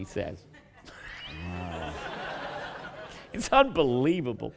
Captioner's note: laughter